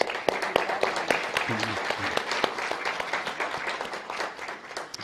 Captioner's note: audience applause